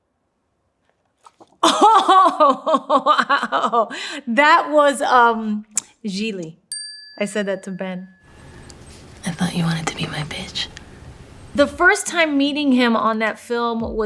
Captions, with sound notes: (laughing) That was "Gigli". (bell dings) I said that to Ben. I thought you wanted to be my bitch. The first time meeting him on that film